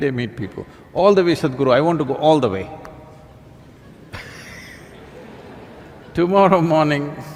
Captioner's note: laughter